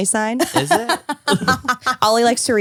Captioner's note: laughs